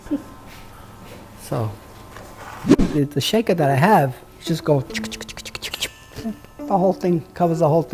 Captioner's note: salt shaker noises